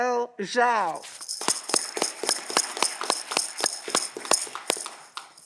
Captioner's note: audience clapping